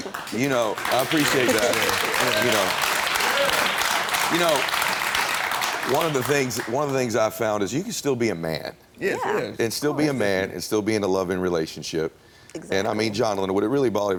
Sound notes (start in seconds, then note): 2.6 audience applauds